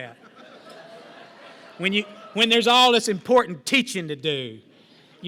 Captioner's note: laughter